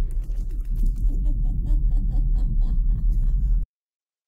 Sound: Kate laughs

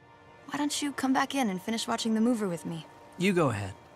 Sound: none

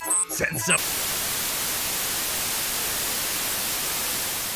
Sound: Static; alarms🚨; static fades

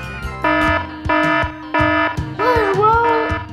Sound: siren blaring

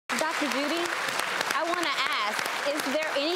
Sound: audience clapping

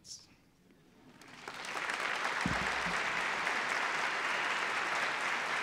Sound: applause

